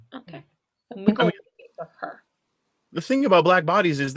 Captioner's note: mumbling